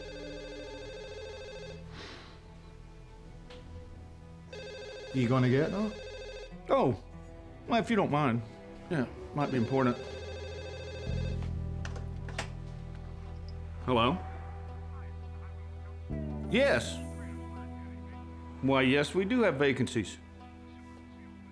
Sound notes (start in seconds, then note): 0.0 phone rings; 4.7 scottish accent; 9.4 phone rings